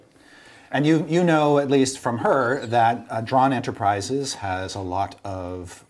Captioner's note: laughs